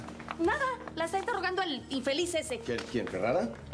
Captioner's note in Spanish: none